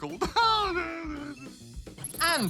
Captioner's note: laughs